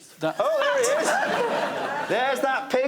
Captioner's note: laughter